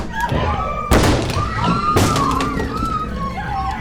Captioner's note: door cracking